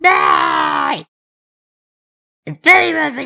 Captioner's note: awkward silence